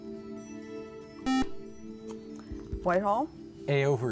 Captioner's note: beep